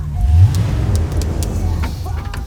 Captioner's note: engine revving